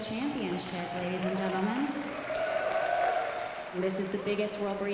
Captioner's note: applause